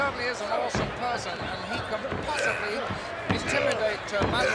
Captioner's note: wrestlers grunting